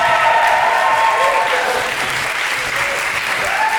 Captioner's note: applause for our amazing leavers